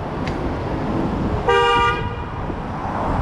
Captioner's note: hoonnk!!